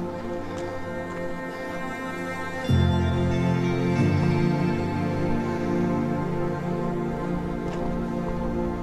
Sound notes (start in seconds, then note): 1.7 breathing heavily